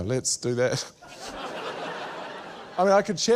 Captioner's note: laughter